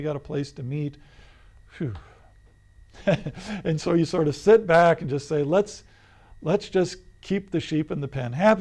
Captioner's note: laughs